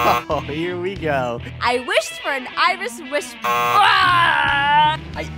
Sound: buzzer; buzzer

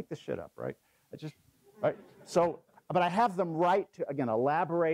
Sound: laugh

